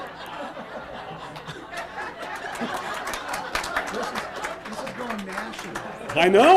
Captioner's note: laughter